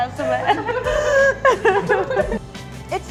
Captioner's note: laughing